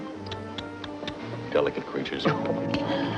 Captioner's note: tsking